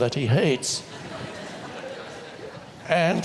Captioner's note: audience laughs